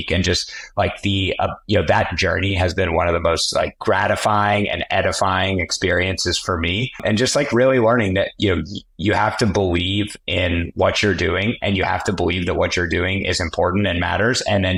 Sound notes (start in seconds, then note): none